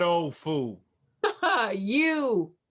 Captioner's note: Peaches laughs